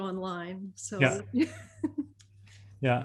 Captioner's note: chuckles